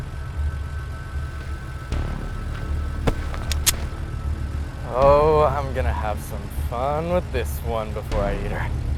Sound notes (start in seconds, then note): 3.2 pump clacks